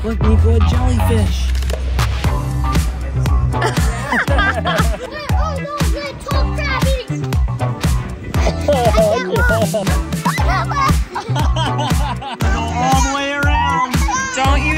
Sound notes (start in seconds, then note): 3.5 mom and Dad laughing; 4.7 cheering; 8.3 dad laughing